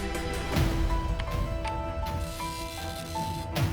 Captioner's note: typing